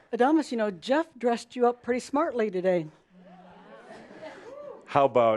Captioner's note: audience agrees